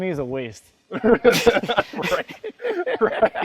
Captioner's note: both laughing